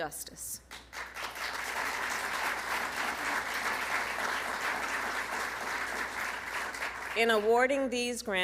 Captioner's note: applause